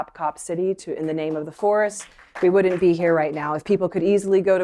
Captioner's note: applause